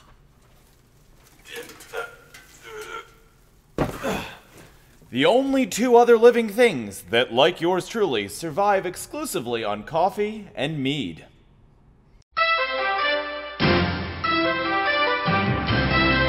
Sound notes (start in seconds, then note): 1.4 grunting